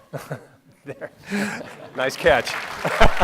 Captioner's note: laughing; clapping